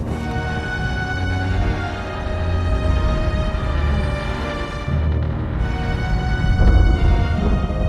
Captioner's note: door creaks